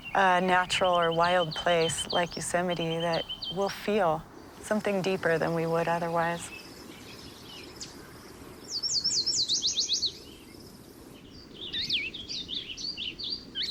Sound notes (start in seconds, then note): 8.7 bird singing; 11.6 birds singing